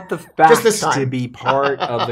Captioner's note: laughs